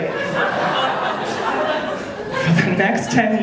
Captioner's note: audience laughing